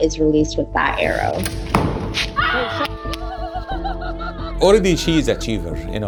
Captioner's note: background cheering